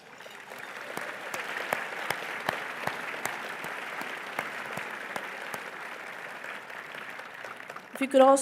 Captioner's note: applause